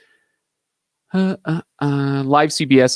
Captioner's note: vocalizing